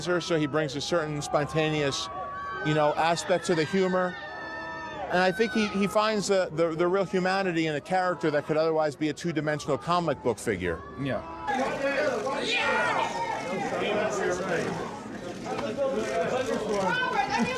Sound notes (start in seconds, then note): 4.2 crowd shouting; 12.0 press shouting